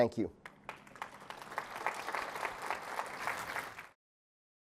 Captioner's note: applause